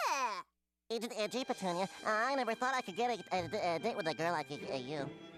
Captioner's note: stuttering